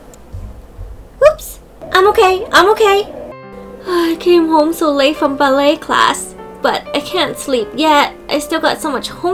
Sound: yawn

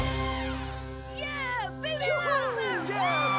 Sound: crowd cheering

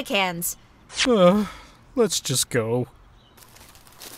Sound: groan

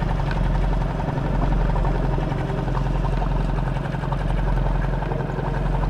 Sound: motor rustling continuing; ominous music

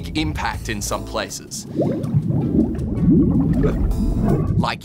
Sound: bubbling, gurgling

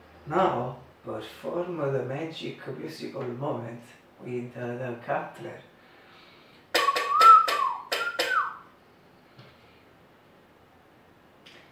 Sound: whistle

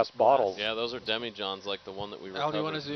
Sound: male Voice

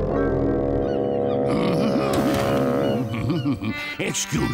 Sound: humming

